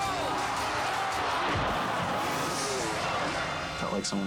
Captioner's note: body thuds